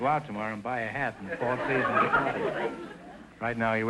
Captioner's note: audience laughter